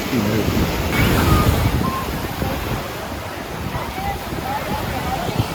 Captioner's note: waves roaring